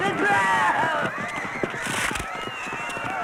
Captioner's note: crack